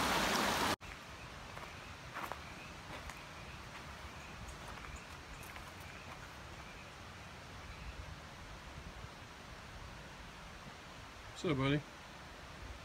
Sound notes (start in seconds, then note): 1.3 crickets chirp